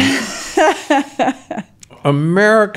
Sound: laughs

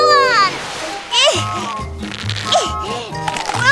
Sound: grunting

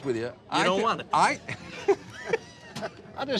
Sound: laughs

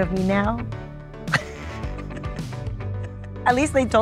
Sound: laughs

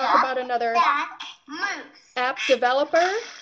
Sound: computer voiceover

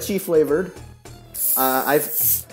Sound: soda bottle Fizzing

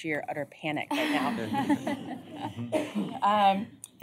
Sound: laughter

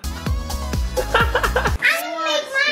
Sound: laughing

